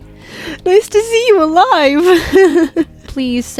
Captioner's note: laughs